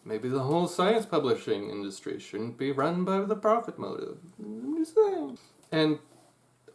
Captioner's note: Pasta mumbles cheekily